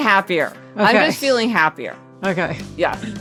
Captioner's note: laughing